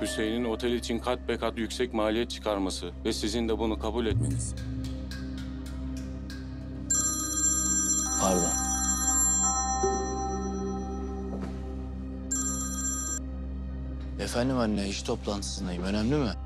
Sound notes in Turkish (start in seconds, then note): 6.9 Telefon Çalıyor